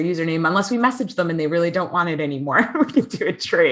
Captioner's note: laughs